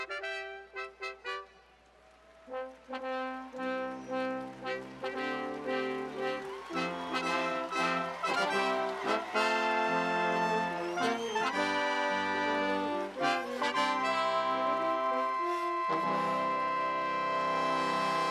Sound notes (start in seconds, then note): 2.2 music & Applause